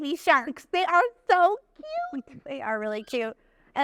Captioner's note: chuckles